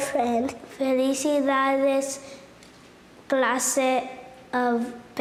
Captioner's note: speaking Spanish